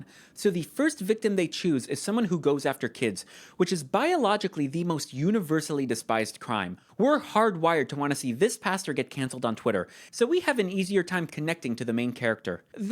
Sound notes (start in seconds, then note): none